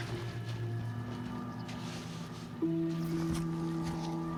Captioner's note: snow crunching